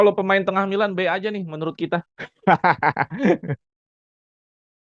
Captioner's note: laughs